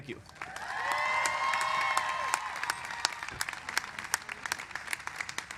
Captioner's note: applause